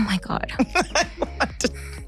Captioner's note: laughs